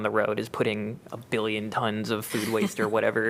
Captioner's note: laughter